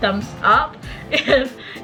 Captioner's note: laughter